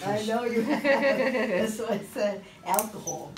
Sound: laughs

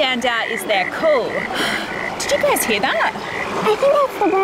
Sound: frog croaks; gasps

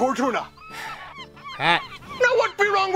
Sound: sighs

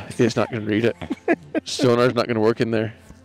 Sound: laughs

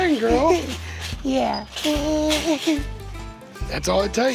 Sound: laughs

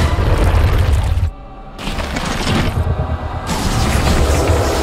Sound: guttural creature noise

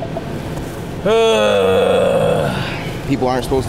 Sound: groans

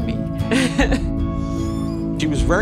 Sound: laughs

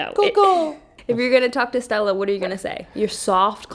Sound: laughing

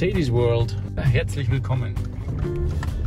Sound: in german

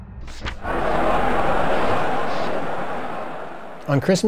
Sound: shocked crowd murmers

